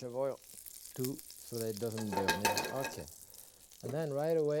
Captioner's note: pan shuffling